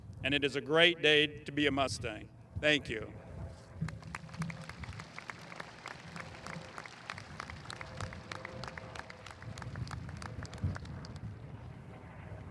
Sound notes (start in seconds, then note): 3.8 audience applauding